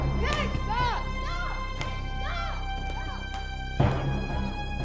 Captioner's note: slaps; ominous music